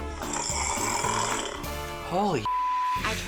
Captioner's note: snoring